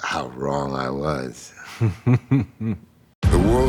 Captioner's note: chuckles; laughs